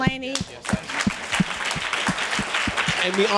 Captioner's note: audience applause